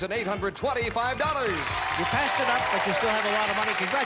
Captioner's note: cheers and applause